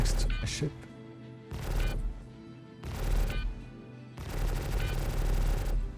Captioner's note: beeping